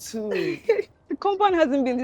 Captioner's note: chuckles